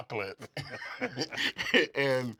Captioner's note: laugh